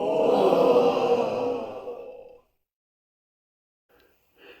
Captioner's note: audience gasping